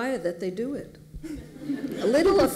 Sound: laughter

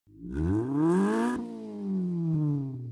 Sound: engine revs

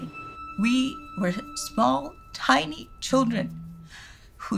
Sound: voice shaking

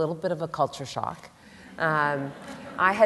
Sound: laughter

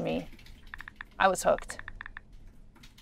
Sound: light tapping

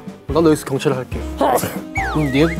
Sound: achoo

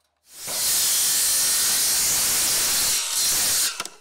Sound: saw whirring

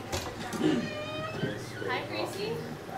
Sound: door opens

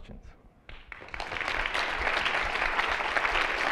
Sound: applause

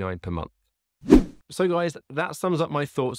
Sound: swooshing sound

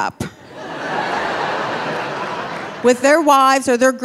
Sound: audience laughing

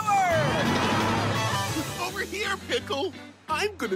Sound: giggles

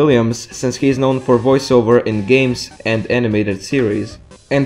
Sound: voice over for the character Lando Calrissian

